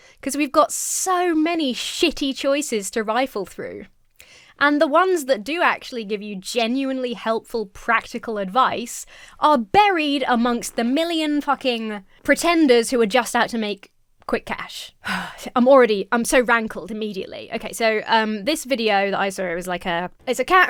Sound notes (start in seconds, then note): 15.0 sighs